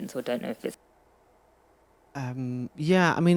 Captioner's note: audio cutting out